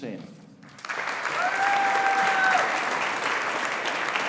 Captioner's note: audience applauding